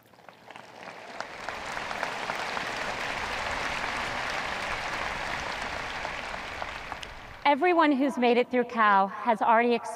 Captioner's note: audience applause